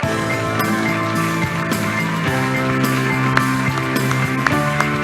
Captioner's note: applause